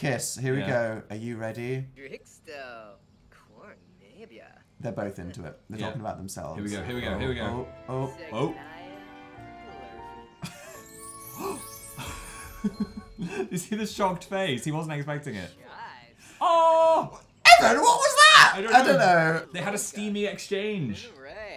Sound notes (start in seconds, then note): 11.3 laughing and gasping